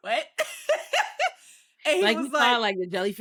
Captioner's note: laughing